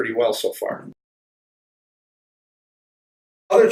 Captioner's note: silence